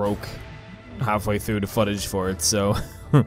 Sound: awkward laugh

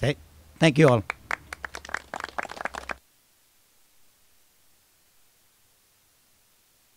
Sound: applauding

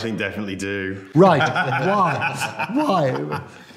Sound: people laughing

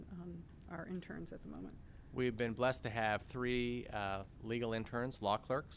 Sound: executive Director speaking

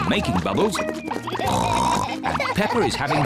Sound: oinks

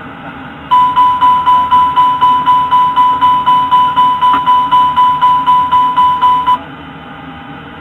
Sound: continuous repetitive chime

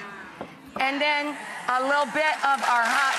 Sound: audience cheers; audience applauds

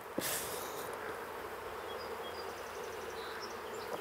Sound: humming, birds chirping

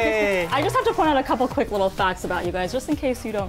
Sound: band exclaims

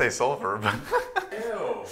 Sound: laughing

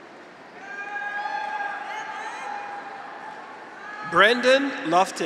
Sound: graduates cheer

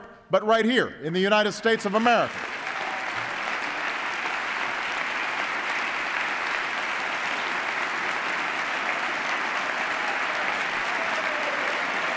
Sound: applause

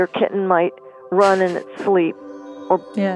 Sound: laughs at the thought—it’s goofy!

